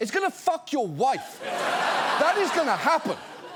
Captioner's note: audience laughs